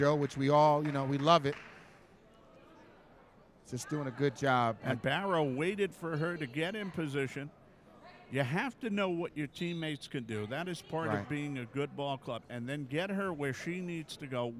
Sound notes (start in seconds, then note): 9.4 referee whistling